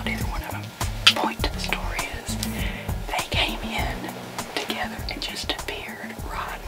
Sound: whispering

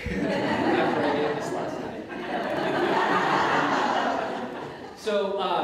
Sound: audience Laughter

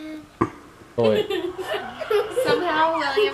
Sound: child laughing

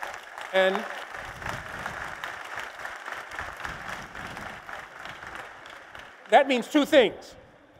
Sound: applause

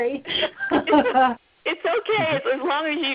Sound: laughter

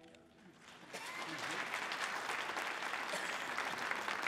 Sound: audience applauding

